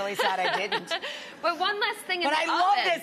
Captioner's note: Amanda laughs